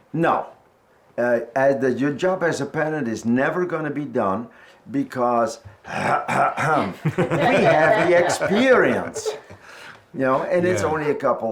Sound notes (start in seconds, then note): 5.8 clears throat